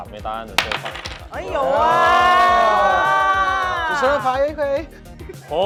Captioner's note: cheer